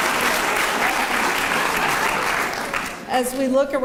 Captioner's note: laughter